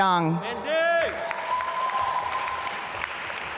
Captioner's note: applause